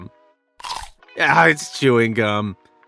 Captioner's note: bite crunches